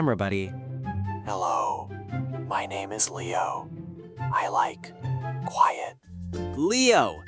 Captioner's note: barely audible whisper